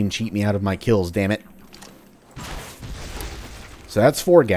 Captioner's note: fwoosh